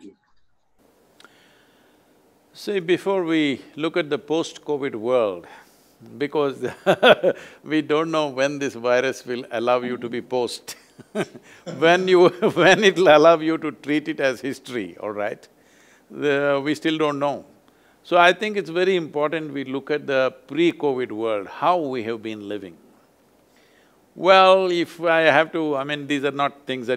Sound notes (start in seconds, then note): 5.8 laughs; 10.7 both laugh